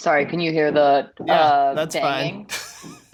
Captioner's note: laughter